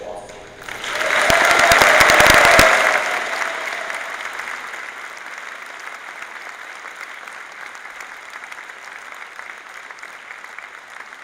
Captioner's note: applause